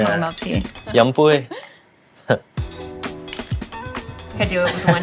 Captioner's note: speaking in foreign language; laughing